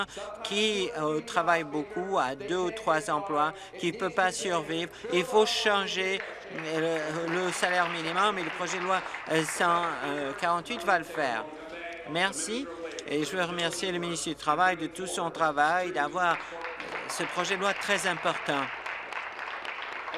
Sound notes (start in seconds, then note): 13.5 applause